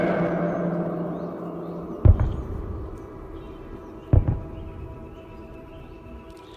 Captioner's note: more gunfire or explosions